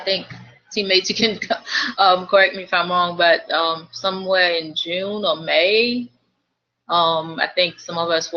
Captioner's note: laugh